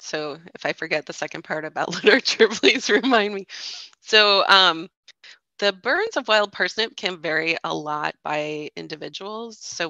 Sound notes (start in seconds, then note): 1.9 chuckles